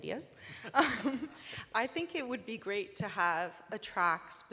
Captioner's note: laughs